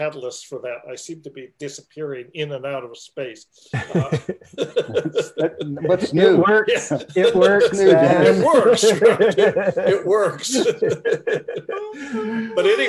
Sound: laughter

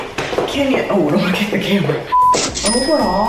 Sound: beeping

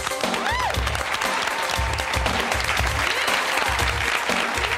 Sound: engaging music; audience applauds and cheers

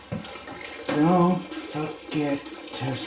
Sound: water running

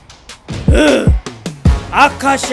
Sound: mild roar

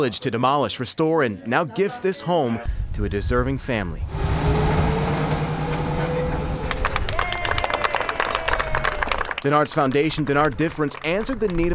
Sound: applause

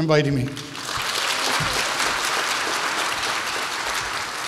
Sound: audience applauds

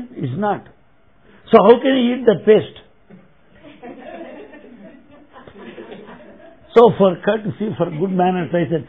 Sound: laughter

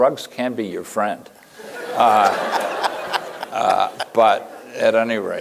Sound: laughter

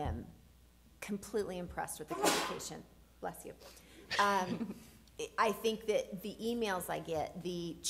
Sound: sneeze

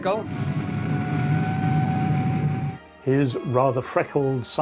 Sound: engine whirring

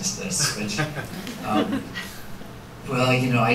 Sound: soft laughter

